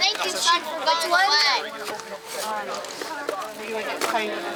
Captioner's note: indistinct chatter